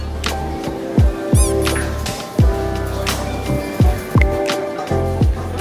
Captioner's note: loud slurping noises